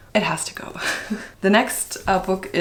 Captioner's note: laughs